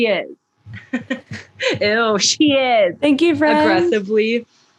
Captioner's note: laughs; laughter; sarcastic voice; aggressively